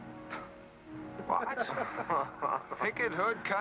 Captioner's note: men chuckle